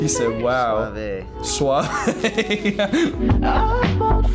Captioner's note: laughs